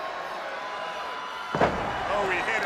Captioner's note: crowd cheering